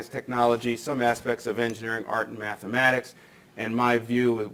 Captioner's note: microphone shuffles